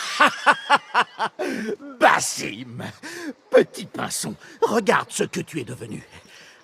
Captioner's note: laughs